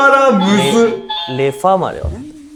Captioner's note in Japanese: 正解音